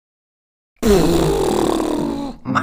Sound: raspberry

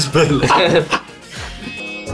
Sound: dying in laughter

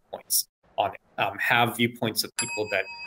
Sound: bell dings

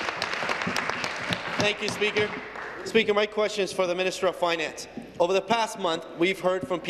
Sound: applause

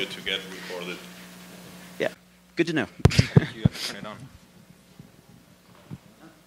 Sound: laugh

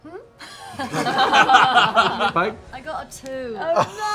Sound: laughter

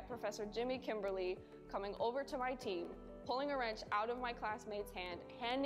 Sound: none

